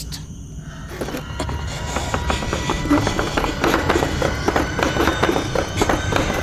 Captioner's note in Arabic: موسيقى مخيفة; صعوبة في التنفس